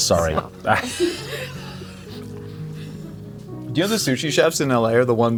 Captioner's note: people laughing